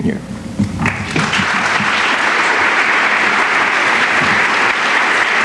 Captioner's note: applause